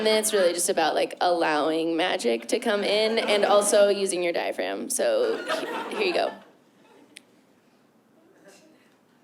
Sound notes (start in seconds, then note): 7.5 silence